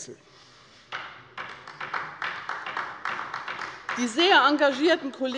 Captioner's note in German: Beifall bei der LINKEN